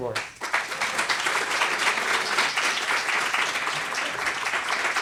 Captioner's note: applause